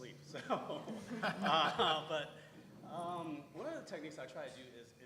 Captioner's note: laugh